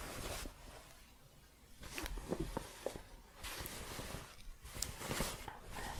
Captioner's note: shuffling